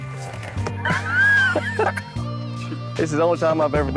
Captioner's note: lalaugughthterer